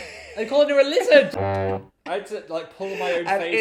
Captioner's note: laughing; horn tooting